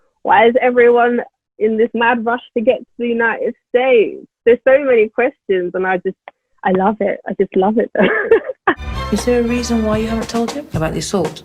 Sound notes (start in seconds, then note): 7.9 laughs